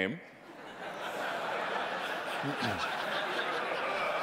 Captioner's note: audience laughing